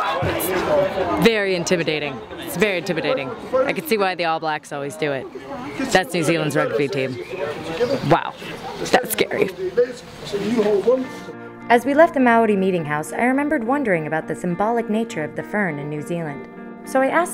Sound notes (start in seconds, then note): 1.4 voiceover; 11.7 voiceover